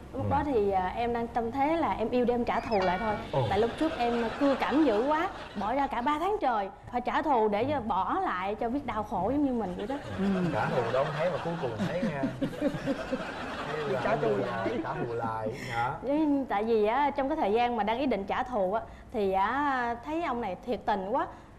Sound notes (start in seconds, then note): 12.3 laughing